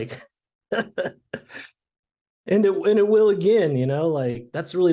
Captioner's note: laughing